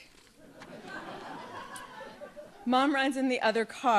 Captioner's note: audience laughs